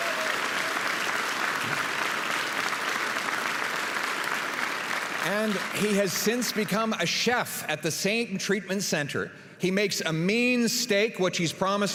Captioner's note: applause